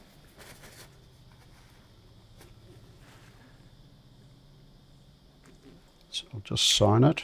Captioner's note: silence